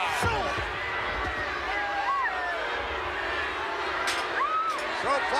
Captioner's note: crowd booing